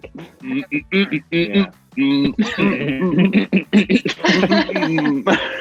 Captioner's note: Archie vocalizing; Amita laughs